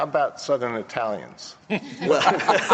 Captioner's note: laughter